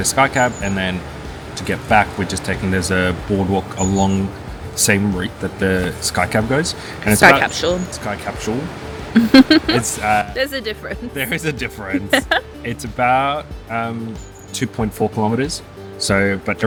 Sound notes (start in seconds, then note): 9.2 laughs